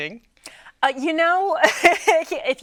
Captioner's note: laughing